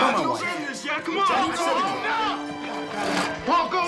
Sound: yelling

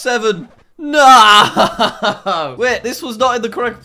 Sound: laughs

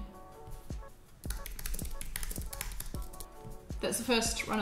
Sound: keyboard clicking

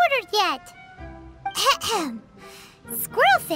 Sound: clears throat

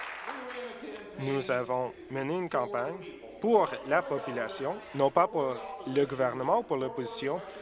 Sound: applause

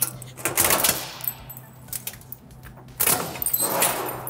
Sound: machine clanging

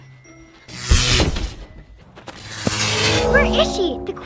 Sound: electrical energy buzzes

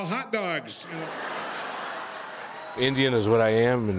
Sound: laughter

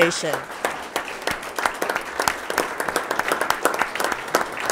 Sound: attendees applauding

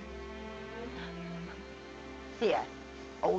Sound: sobbing

